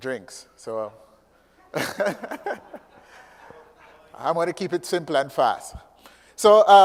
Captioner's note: laugh